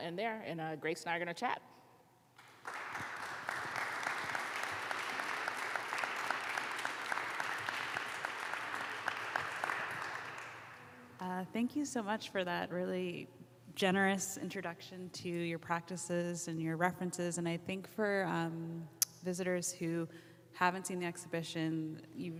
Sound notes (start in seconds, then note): 2.4 crowd clapping